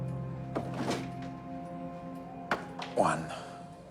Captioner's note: clattering